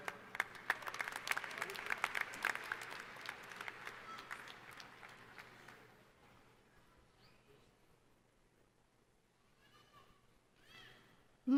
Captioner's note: applause